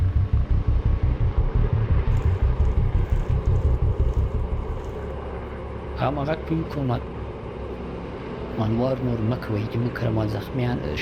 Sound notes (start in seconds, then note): 5.9 speaking foreign language